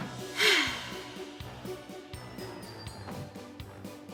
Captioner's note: Arizona sighs